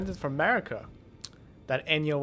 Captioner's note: mouth smack